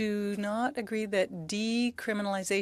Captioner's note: speaking French